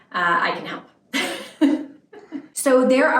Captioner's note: lady laughing